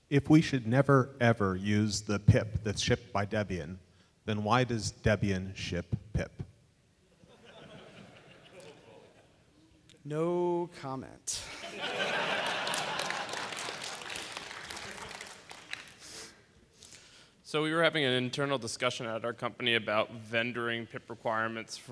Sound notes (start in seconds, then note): 7.1 laughter; 11.6 laughter, applause